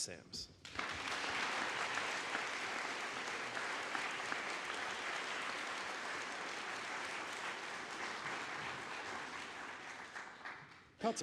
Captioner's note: applause